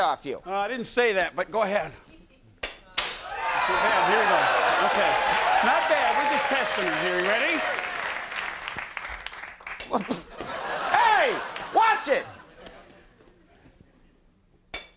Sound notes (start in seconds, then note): 3.2 audience cheering; 10.0 audience laughing